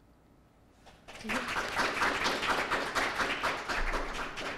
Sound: applause

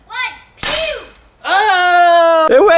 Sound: glass cracks

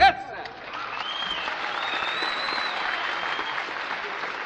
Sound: cheers, applause

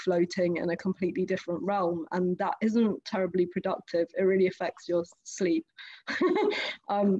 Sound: laughs

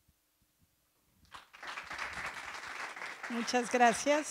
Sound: audience applauds

